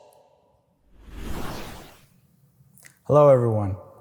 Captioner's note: whooshing sound effect